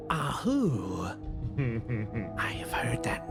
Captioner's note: chuckle